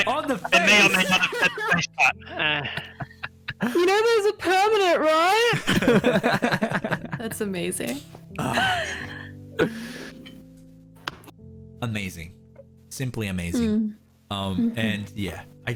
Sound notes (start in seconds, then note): 0.0 excited jabbering; 0.0 laughter; 2.3 giggles subsiding; 5.5 more giggles; 9.4 calm music; 9.6 deep breaths in; 9.6 excited inhale